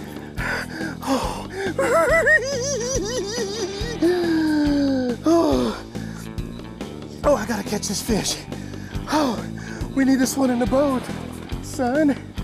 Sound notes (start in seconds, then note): 1.6 laughs; 3.8 gasps